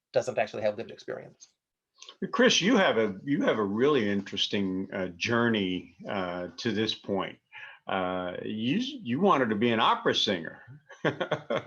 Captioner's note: laughing